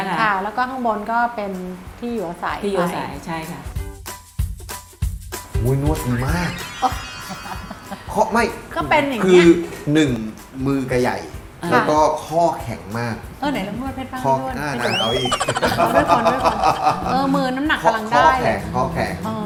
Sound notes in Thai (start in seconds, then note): 6.4 หัวเราะ; 14.8 หัวเราะ